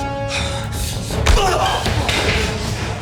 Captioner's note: punch thudding; suspenseful music